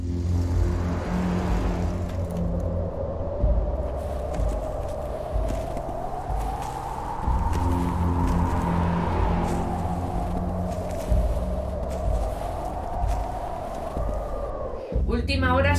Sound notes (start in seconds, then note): 0.0 dramatic Music; 0.0 wind